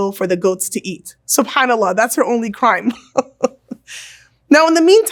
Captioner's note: laughs